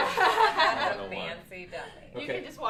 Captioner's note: laughter